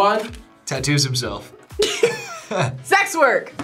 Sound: both laugh

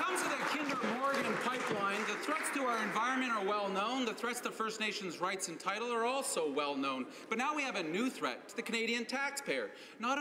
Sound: applause

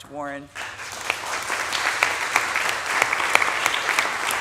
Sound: audience applauding

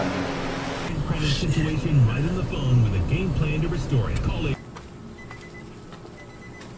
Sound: car beeping; radio chatter

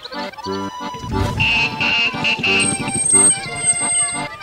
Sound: honking

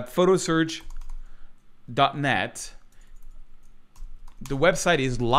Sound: keyboard clacking

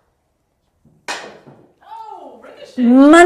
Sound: club tapping

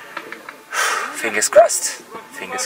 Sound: sighs

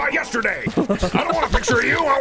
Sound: chuckles like a goon

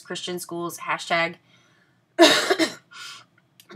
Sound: coughs

